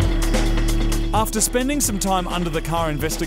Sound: voice over

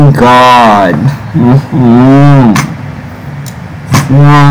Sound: moans

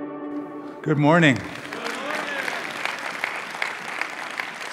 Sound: applause

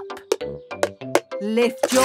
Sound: taping

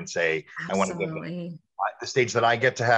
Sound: mic cracking

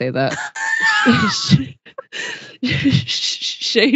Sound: laughs

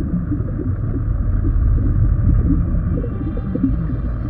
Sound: bubbling

